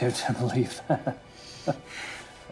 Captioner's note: laughing